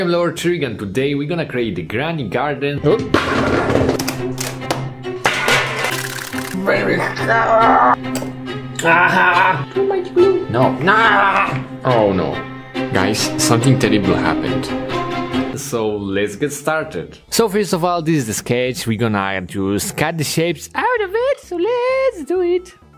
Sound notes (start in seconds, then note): 3.0 dramatic music; 3.0 crashing; 5.2 clattering; 6.1 liquid sloshing; 7.1 frustrated groaning